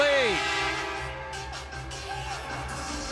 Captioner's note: horn